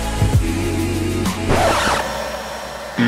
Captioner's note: hair dryer; rejection sound